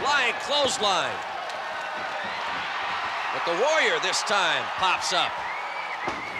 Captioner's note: applause